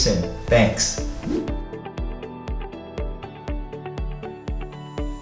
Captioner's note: air whooshing; soft music